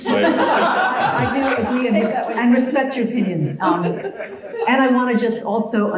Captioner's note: laugh